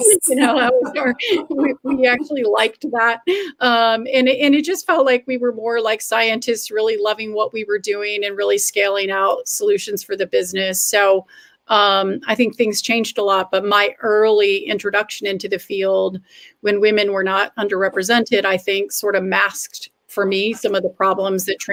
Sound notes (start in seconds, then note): 0.2 laughter